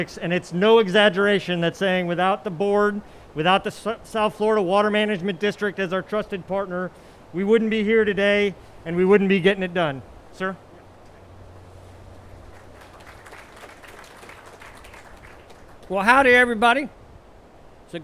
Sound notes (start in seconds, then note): 12.2 attendees applauding